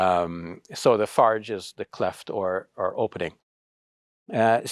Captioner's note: speaks Arabic